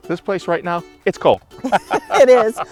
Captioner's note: laughing